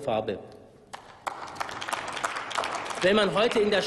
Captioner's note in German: Applaus